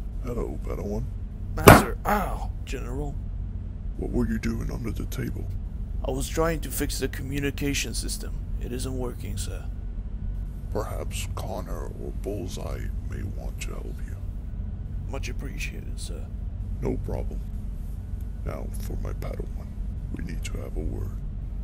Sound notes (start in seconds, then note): 1.6 bonk